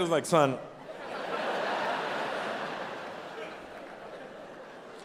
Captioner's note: audience laughing